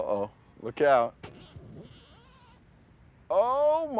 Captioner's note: zipper buzzing